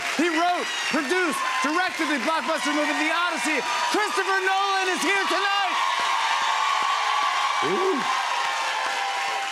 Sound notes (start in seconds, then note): 5.7 cheers and applause